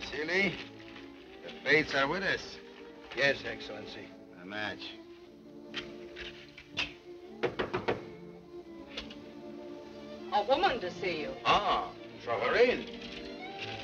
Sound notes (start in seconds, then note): 6.2 gentle music; 7.3 door knocking; 13.5 dramatic music